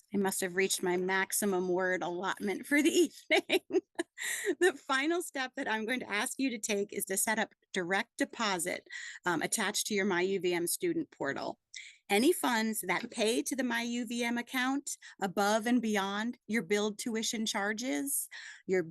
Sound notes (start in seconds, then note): 3.2 laughs